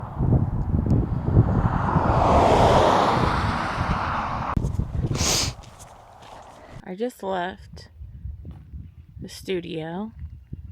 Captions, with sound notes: [wind buffeting] [truck racing by] [sniffling] I just left the studio.